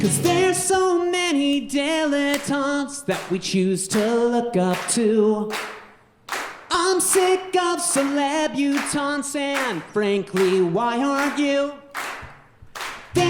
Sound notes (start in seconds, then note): 6.2 audience clapping